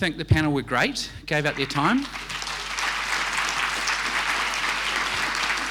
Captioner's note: audience applauding